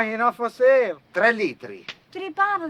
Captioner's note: speaking foreign language